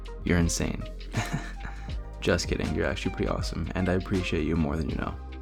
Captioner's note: laugh